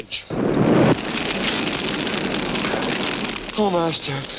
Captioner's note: fire whooshing